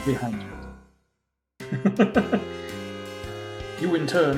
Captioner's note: chuckles